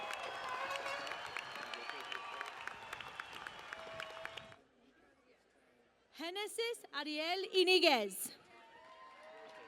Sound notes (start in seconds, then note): 0.0 cheering and Applause